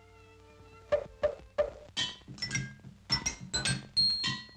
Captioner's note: clanking In Rhythm